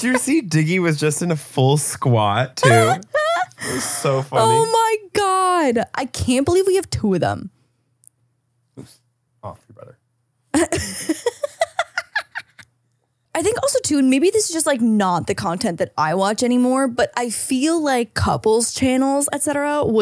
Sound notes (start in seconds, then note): 0.0 laughs; 2.6 laughing; 10.6 laughs